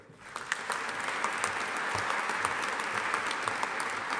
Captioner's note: audience applauding